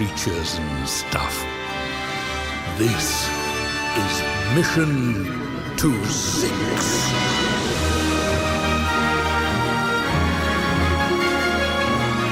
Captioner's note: sighs